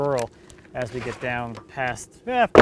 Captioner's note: wood clunking